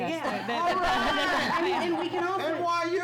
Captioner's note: laughs